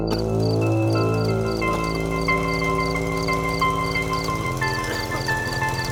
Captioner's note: distant bike engine